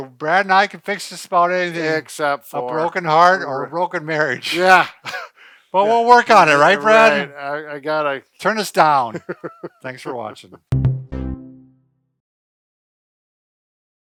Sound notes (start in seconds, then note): 4.3 chuckles; 9.0 chuckles; 10.7 electric music